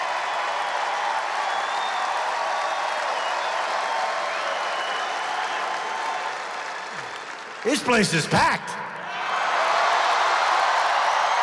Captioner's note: applause